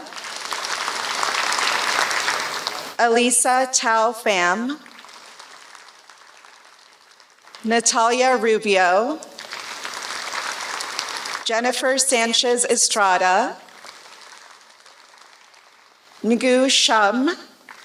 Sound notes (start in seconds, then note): 0.0 applause; 4.9 applause; 9.3 applause; 13.9 applause; 17.6 applause